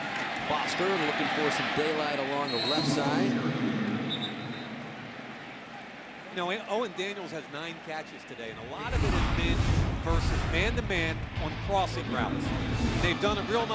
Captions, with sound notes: And now Foster looking for some daylight along the left side. [pa announcement] [whistle blows] Now Owen Daniels has nine catches today. And a lot of it has been versus man-to-man on the crossing routes.